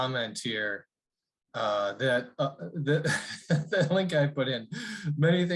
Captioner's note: laughter